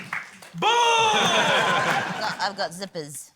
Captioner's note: laughter